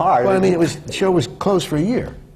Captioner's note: laughs